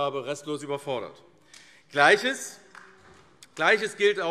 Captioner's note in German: Beifall AfD